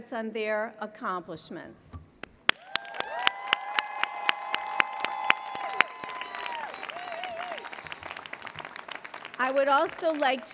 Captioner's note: applause